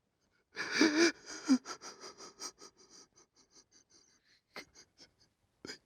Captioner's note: crying